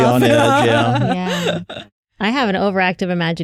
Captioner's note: laughter